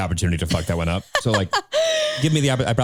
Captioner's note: laughing